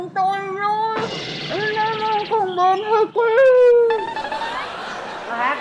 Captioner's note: laughing